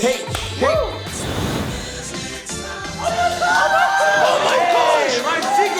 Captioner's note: group gasps, exclaims